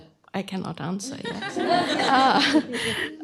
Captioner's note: laughter